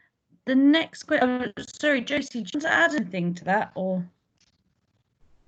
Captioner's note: audio distorted